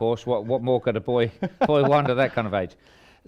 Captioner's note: laughing